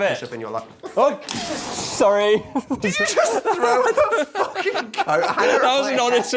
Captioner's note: crash; laughing